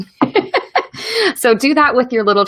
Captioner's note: laughs